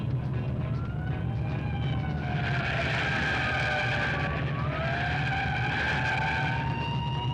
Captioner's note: siren blaring; tires screeching